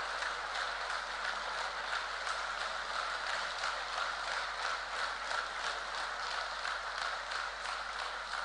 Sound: applause

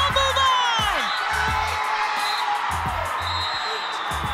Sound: cheering

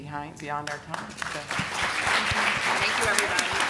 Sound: audience clapping

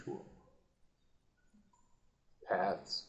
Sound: silence

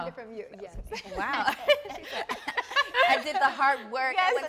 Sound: all laughing

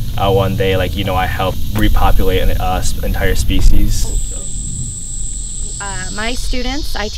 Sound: bugs humming

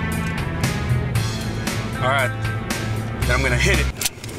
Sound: gun cocks

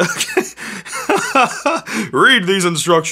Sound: laughing

